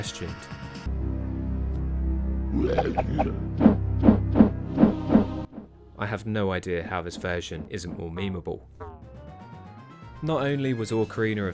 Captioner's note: grunts and bad sound effects